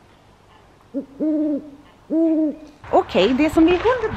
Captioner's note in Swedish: ljudeffekt av ugglas hoande